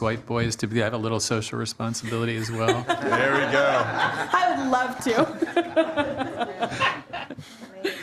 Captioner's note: laughing